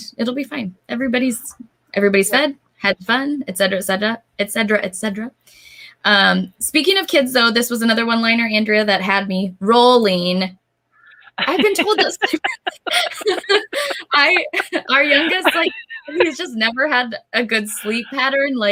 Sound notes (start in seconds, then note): 11.2 laughs